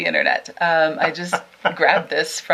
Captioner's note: laughing